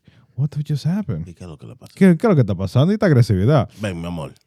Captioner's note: speaking In Foreign Language